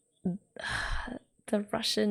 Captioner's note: sighs